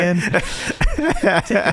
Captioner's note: laughing